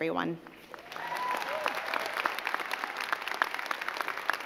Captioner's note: crowd clapping